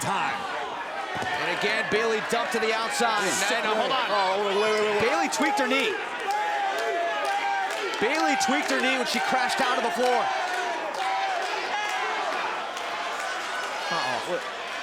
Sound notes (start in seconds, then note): 8.0 crowd cheering; 12.3 crowd cheering